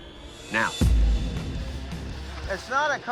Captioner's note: flames whoosh